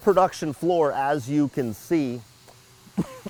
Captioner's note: coughs